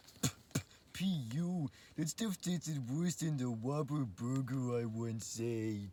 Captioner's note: spits